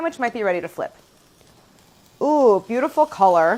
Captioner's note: pan sizzling